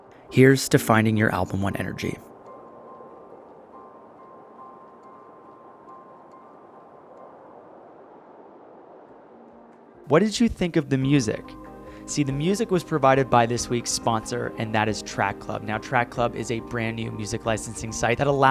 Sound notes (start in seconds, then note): 2.9 gentle music; 3.0 wind rustling